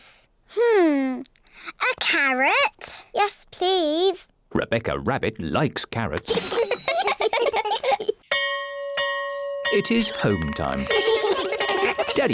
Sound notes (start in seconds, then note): 6.3 all giggle; 8.3 bell rings; 10.7 all giggle